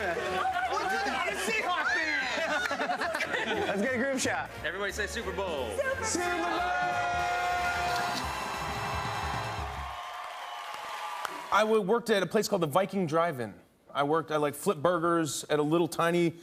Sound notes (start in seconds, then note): 7.9 camera shutter clicks